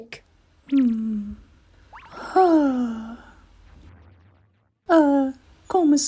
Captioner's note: Komama sighs